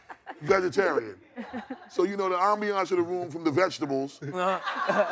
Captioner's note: laughing